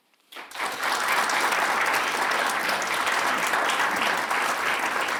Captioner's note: audience members clap